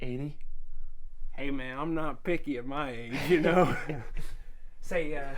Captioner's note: laughs